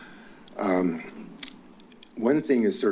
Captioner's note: clicks tongue